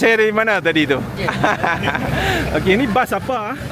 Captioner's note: laugh